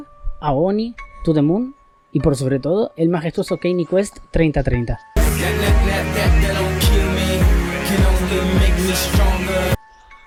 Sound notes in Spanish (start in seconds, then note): 5.2 Sonidos de reclamo de Copyright